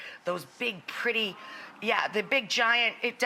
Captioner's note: audience gasps